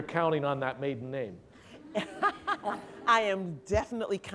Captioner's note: laughter